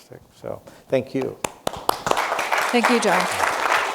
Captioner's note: applause